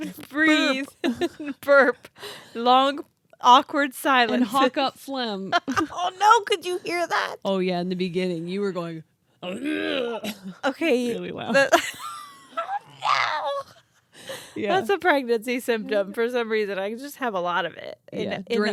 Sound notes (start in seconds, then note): 5.6 laughs; 10.1 growls